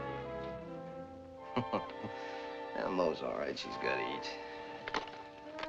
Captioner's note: chuckles